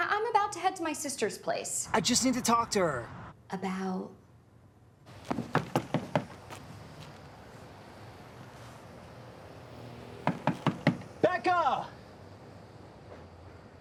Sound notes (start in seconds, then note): 5.3 door knocking; 10.2 door knocking